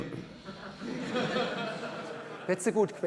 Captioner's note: laughter